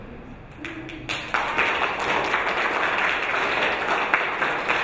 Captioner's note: audience applauding